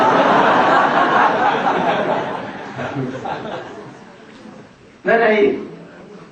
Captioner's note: смех